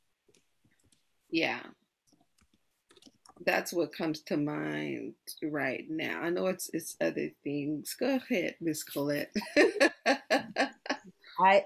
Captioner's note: laughter